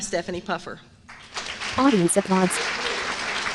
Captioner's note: applause